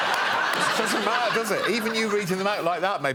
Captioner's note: laughter